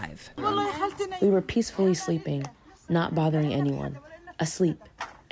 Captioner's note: through translator